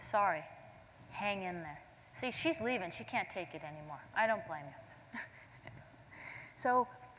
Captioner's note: laughter